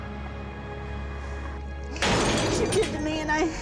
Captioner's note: glass breaking